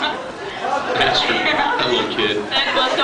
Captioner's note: laughing